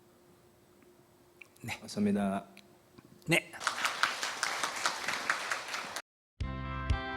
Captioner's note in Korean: 청중 박수